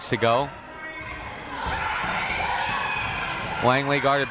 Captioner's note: crowd members shouting